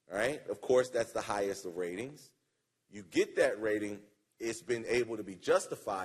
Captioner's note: none